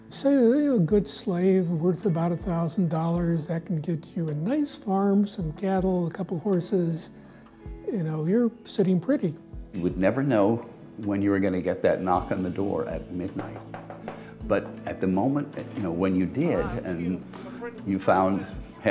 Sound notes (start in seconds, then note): 13.4 knuckles rapping